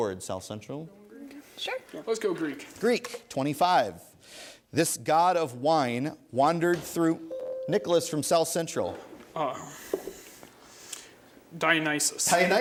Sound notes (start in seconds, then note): 7.3 ding